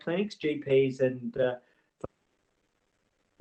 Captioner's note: audio distorts